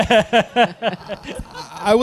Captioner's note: laughing